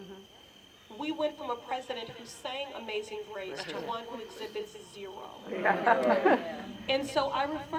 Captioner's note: laughter